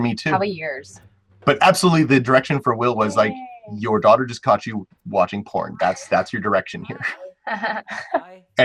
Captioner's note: laughs